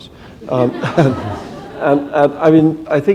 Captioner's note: laughter